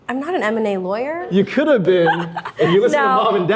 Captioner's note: Arden laughs